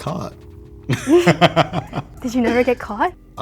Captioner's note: both laugh